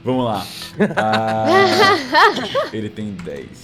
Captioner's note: laughter